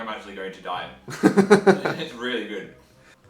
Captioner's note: laughing